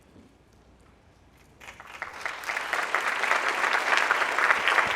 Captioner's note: audience applauding